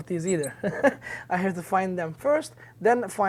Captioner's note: chuckles